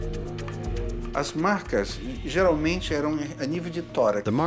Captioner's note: speaking Portuguese